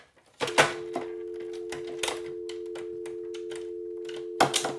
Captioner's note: phone dial tone buzzing